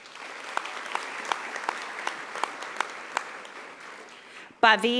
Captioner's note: audience applauding